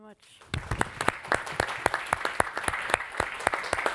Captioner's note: all applauding